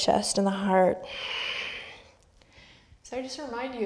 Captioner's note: breaths